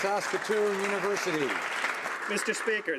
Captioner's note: some Applause